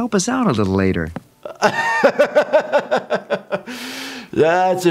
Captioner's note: laughing